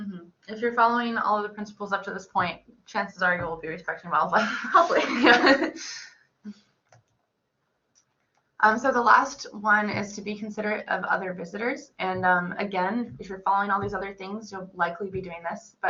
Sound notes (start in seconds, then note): 4.4 laughs